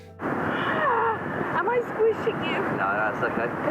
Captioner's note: groans